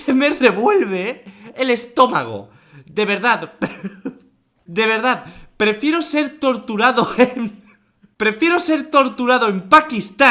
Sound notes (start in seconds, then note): 7.0 laughs